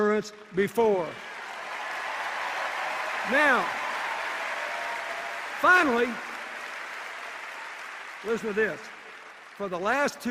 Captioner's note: cheers and applause